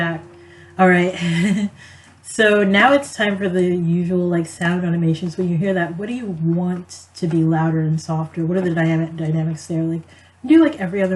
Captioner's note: laughs